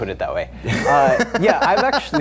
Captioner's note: laughing